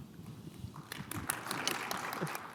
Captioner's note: audience clapping